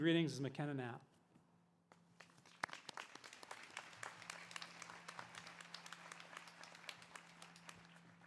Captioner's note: applause